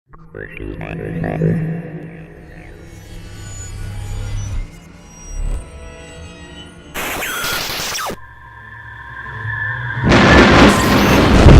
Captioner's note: sound Effects